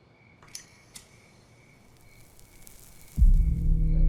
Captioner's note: zippo flicked open and struck; cigarette burning